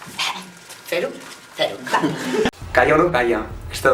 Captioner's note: laughs